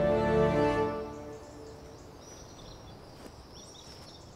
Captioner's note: birds chirping